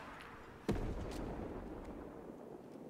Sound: explosion

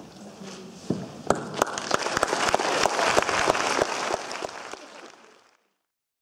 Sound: audience applause

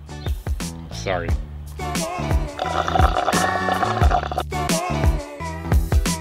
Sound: straw sucking amid embarassment

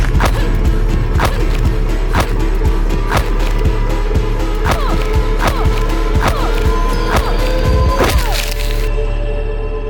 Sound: punches

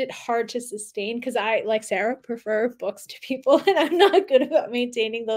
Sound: chuckling

